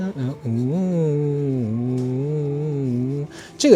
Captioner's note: humming the melody